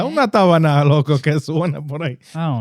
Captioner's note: speaking In Foreign Language